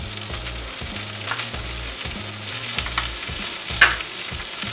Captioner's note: skillet Sizzles